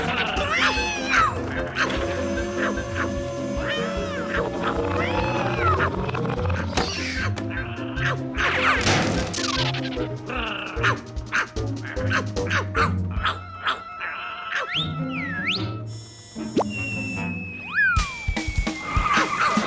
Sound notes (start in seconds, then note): 11.9 barking; 14.7 whistles